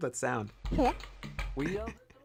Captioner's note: giraffe voice